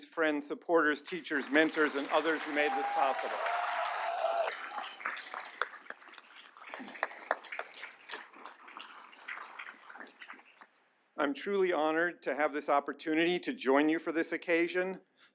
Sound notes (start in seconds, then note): 3.4 applause